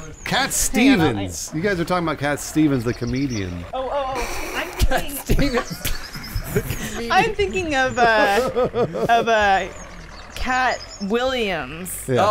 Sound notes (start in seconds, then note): 6.3 laughing